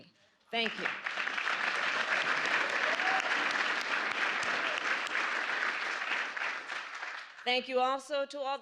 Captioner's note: applause